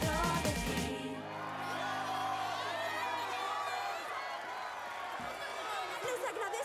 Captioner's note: wild cheering